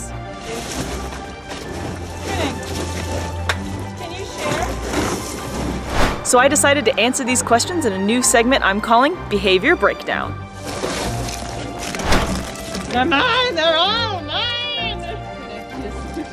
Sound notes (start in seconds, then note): 0.2 background music; 5.8 whooshing sound effect; 10.5 background music; 11.7 whooshing sound effect; 15.2 background chatter; 15.2 background music